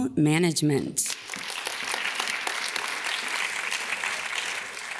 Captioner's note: audience claps